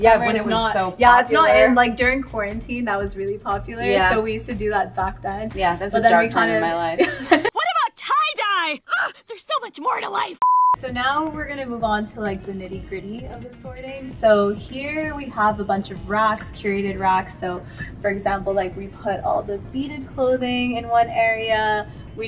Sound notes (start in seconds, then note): 7.0 all laughs; 10.4 beep